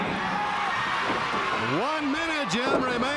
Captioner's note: crowd cheering